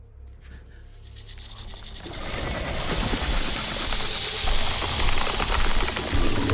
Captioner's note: snake hisses; snake rattles